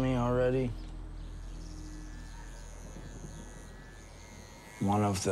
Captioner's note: clipper buzzes